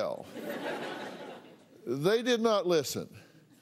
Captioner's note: laughter